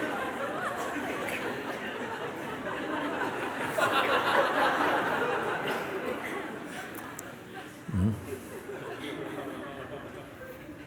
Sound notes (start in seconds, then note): 0.0 laughter